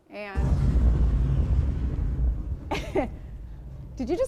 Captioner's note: bomb explodes